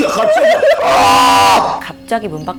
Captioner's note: wailing